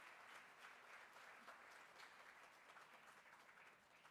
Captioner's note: applause